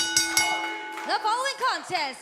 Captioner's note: crowd cheering; bell ringing